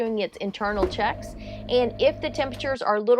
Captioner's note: generator revving